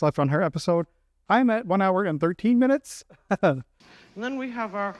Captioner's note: nervous chuckle